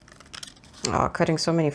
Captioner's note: paper cutting noises